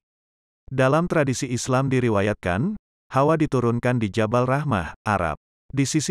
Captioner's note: Arabic